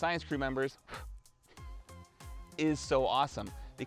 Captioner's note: blows